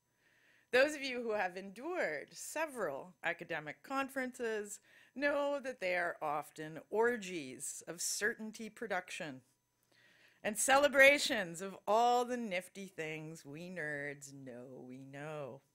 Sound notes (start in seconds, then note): none